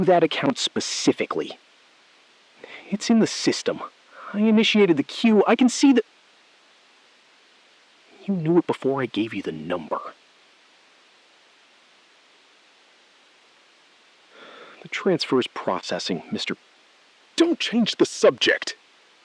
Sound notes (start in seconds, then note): 9.8 SILENCE — 5 sec